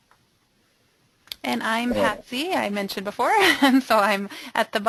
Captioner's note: voiceover